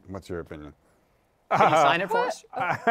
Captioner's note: laughs